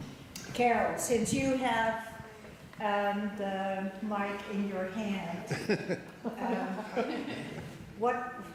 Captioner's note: audience laughter